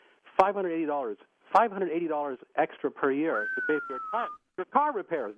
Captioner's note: whistles